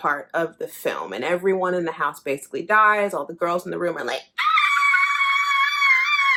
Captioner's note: screaming